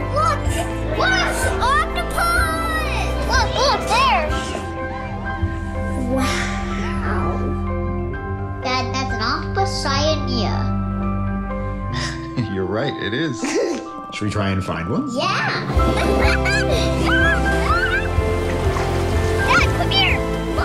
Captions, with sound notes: [music starts to build] [voice of child] Look, look! Octopus! Look, look! There! Wow! Dad, that’s an Octopus cyanea. [voice of father, chuckling] You’re right. It is. Should we try and find one? [voice of child] Yeah! [laughing and splashing in water] Dad, come here!